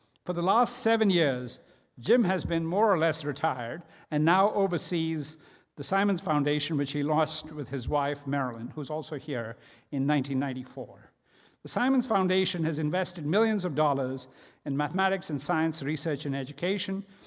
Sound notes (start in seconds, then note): none